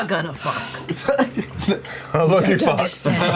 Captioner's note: laughs